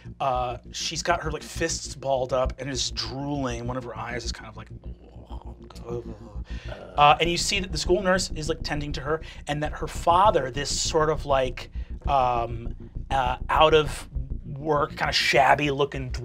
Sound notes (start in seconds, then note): 4.8 groans